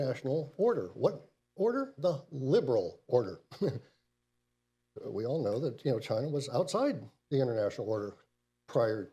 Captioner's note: laughs